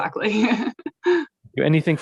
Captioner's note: laughing